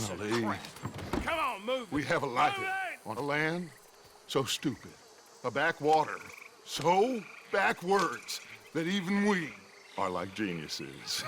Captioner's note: he and Arthur laugh